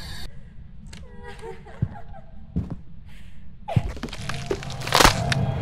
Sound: ghost laughing, stomping, opening nearby doors; dramatic music as dies

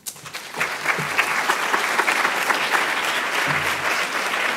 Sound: audience applauds

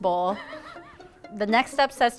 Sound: giggling

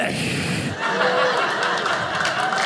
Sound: audience laughing

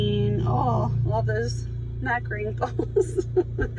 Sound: voice muffling; laughs

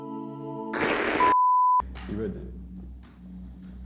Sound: TV static

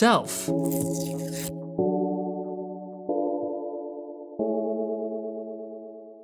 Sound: gentle music; sticker peels

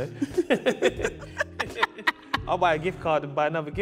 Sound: both laughing

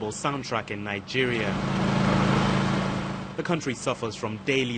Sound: engines roaring

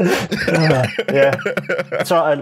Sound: laughter

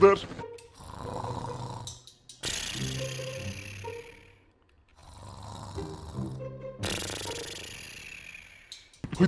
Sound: snoring sound

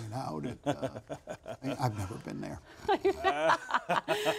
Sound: laughter

